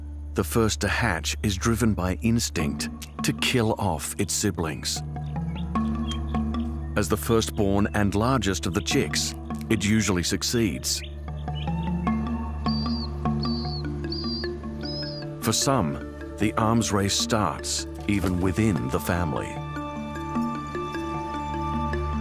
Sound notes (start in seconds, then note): 13.3 chick chirps